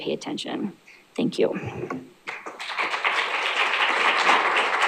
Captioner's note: applause